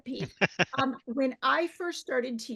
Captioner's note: laughing